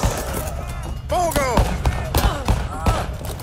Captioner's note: gunshots